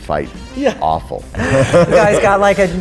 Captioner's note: all laugh